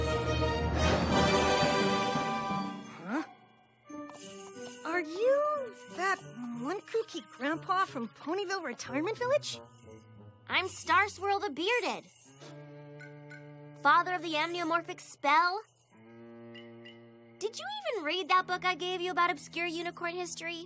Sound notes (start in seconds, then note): 0.0 fanfare plays; 3.4 bells jingle